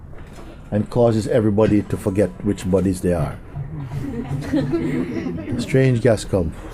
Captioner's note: laughter